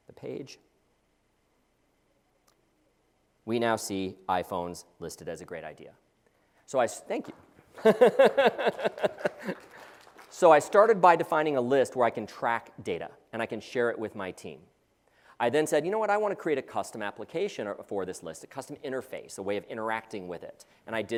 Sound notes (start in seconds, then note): 7.8 laugh; 8.6 applause